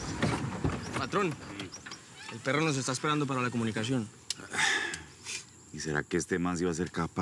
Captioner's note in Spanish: exhala; exhala